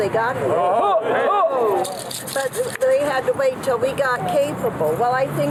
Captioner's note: cheering